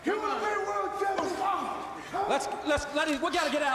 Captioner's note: men chattering